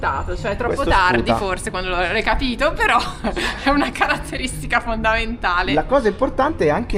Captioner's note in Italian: risate